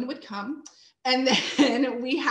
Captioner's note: chuckles